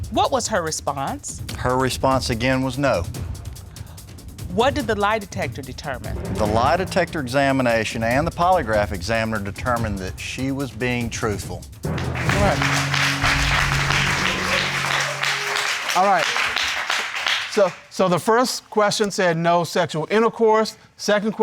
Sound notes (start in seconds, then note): 11.8 crowd applauding